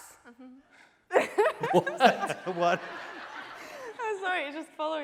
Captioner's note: laughing